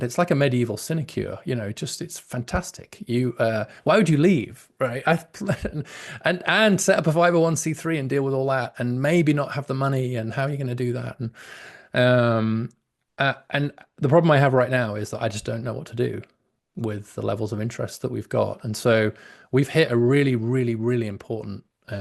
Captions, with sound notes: it's like a medieval sinecure, you know, just, it's fantastic. Why would you leave, right, (laughs) and set up a 501c3 and deal with all that? And maybe not have the money, and how are you gonna do that? And the problem I have right now is that I just don't know what to do with the levels of interest that we've got. And so we've hit a really, really, really important,